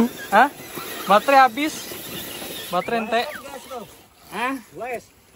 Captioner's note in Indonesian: Terdengar alarm